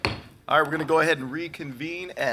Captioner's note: gavel banging